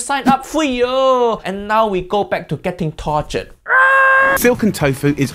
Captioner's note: screams